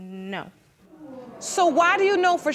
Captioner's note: audience groans